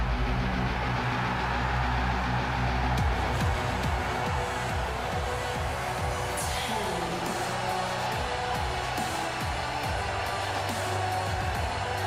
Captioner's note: crowd cheering